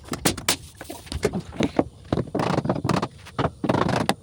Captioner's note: footsteps crunching